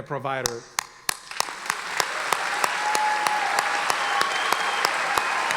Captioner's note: audience applauding